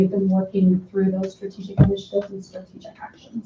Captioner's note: drowned out by banging